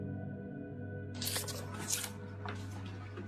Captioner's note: sucks air through teeth